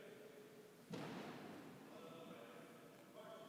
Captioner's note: feet stomping